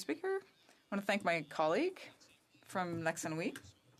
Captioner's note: speaking French